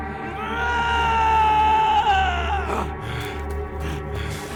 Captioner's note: yelling